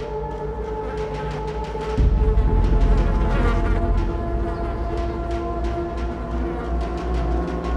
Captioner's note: chilling music; flies buzzing